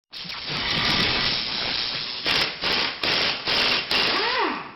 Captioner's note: mechanical tools buzzing